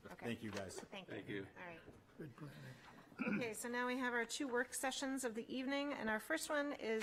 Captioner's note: clears throat